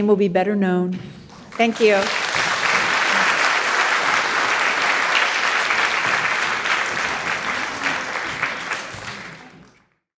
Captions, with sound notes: will be better known. Thank you. (audience applauding)